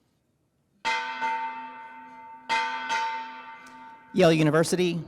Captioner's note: bell ringing